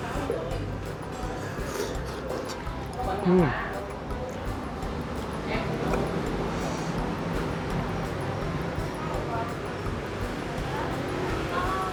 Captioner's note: slurping